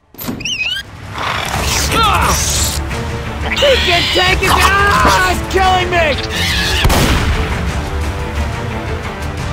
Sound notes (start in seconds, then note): 1.5 attacking cry; 6.6 attacking cry